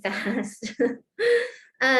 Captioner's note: laughter